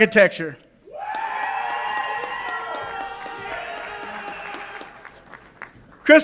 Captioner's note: audience applauds and cheers